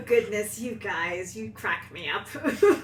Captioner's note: laughs